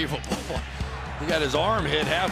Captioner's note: chuckles